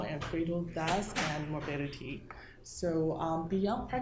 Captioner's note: door clicking